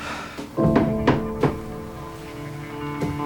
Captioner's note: sighs; knock on door